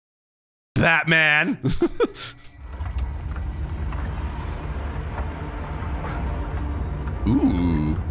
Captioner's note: laughs